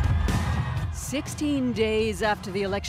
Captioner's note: cheers and Applause